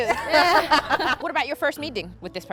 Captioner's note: laughter